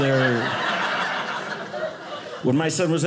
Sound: audience laughing

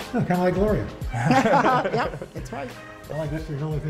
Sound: laughter

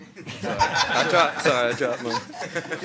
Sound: attendees laughing

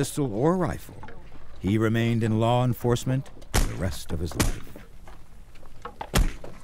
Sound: gunshots

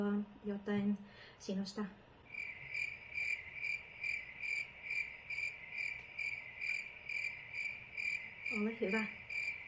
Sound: sounds of nature

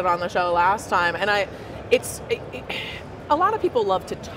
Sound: sighs

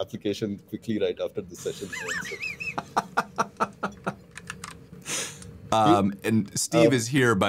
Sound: laughter

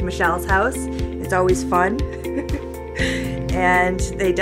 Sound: laughing

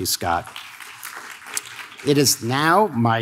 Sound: audience claps

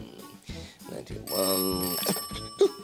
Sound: ring! Ring!

